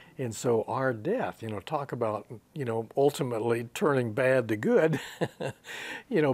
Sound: he laughs

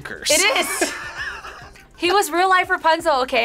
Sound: both laugh

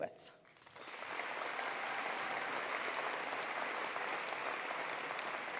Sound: attendees applauding

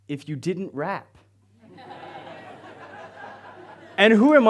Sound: audience laughs

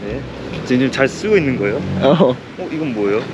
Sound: sound of motorcycle from far away!

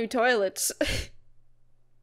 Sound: laughs

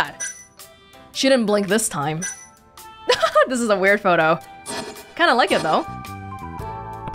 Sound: chuckles

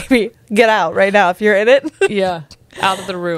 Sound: laughs

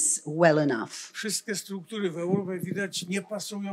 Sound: foreign language

